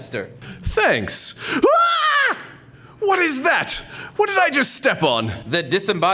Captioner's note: girlish scream